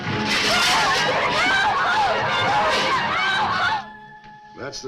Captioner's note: passengers shouting